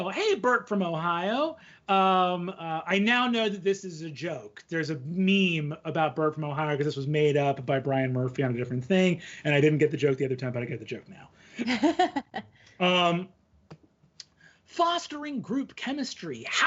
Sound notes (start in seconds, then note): 11.6 laughing